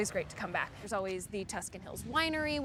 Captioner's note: none